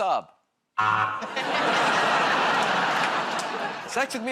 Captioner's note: laughter, buzzer